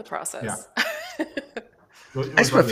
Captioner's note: laughs